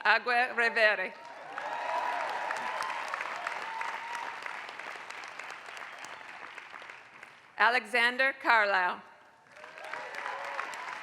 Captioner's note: applause; applause